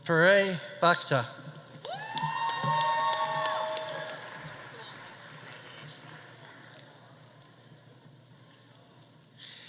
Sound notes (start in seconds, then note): 1.8 audience cheering; 1.8 audience applauding